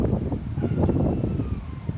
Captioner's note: dog yelps